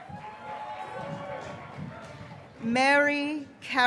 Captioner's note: graduates cheering